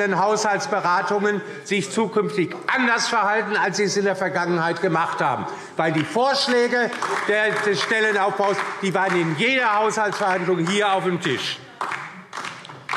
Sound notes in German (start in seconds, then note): 5.6 Beifall DIE LINKE